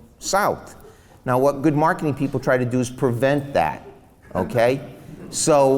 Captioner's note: laughs